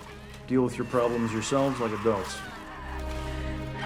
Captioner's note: background screaming